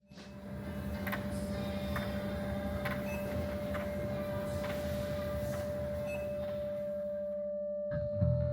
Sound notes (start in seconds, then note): 0.1 sadistic Beeping Noises